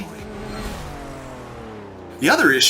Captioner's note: car engine roaring